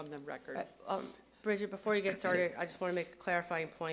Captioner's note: laughter